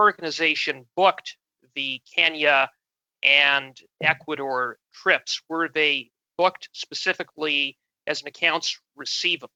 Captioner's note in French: voix de l'interprète